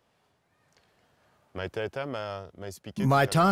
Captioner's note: speaking French